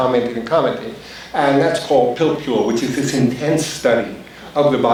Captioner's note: foreign language spoken